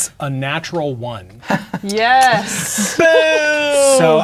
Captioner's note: laughing